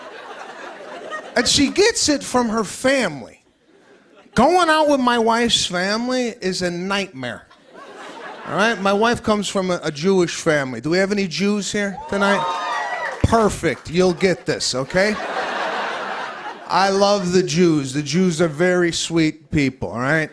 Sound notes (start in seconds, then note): 0.0 laughter; 11.8 cheers; 14.8 laughter